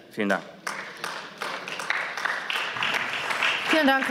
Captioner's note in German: Beifall